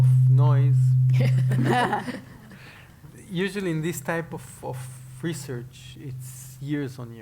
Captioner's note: laugh